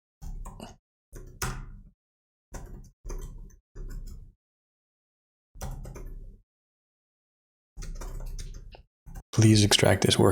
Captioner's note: blank Audio